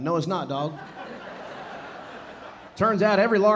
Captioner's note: audience laughing